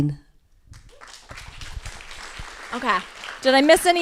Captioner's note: crowd applauding